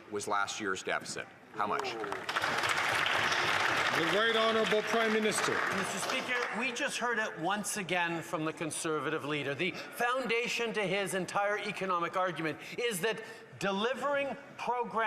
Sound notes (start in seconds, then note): 6.5 applause